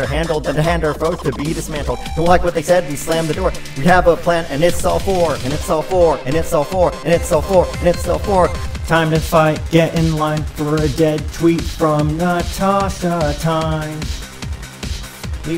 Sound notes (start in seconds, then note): 7.7 echo